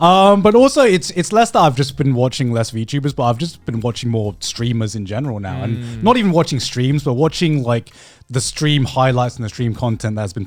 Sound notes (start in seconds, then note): 5.4 affirmative murmuring